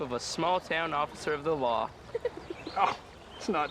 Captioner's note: laugh